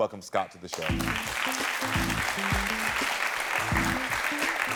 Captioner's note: audience applauding